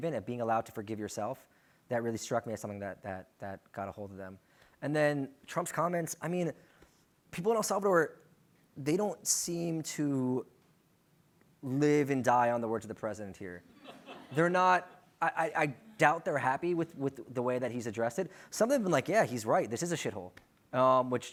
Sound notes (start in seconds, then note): 13.6 laughter